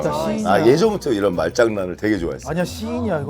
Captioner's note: haha